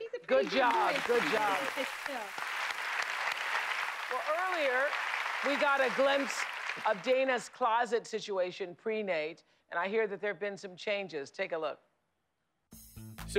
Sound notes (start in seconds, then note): 3.0 applause